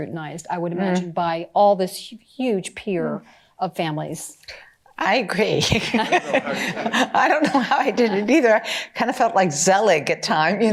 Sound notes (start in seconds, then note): 5.7 laughter